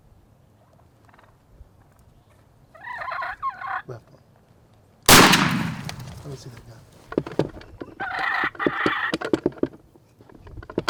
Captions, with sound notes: - Left one. (gun shot) - Let me see that gun. (turkey call)